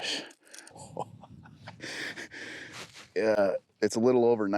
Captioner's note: laughing